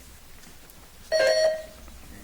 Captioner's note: buzzer chimes